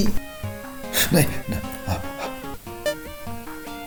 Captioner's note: pant